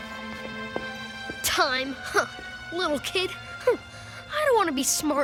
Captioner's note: scoffs